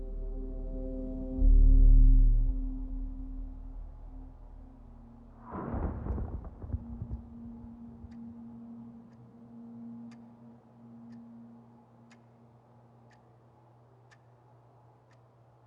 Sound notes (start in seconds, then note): 0.2 eerie music; 5.2 distant rumbling; 9.6 clock ticking